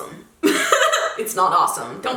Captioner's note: laughs